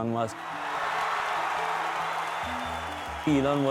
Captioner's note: crowd Cheers